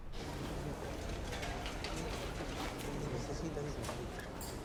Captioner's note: background chatter